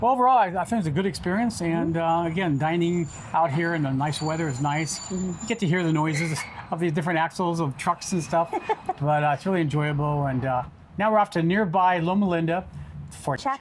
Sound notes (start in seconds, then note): 8.3 chuckles